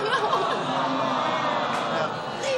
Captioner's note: laughs